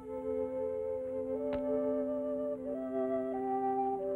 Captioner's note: snap; sentimental flute music